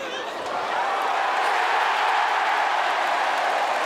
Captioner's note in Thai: เสียงเชียร์ของแฟนๆ